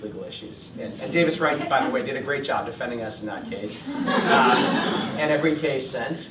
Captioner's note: laughter